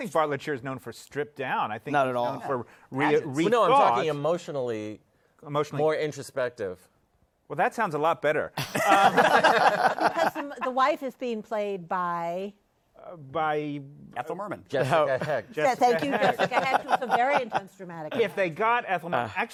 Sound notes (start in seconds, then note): 8.6 laughter